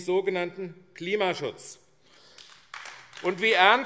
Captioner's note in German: Beifall AfD